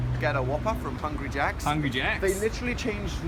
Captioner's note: in Australian accent; with Australian accent